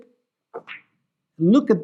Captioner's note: ball clacks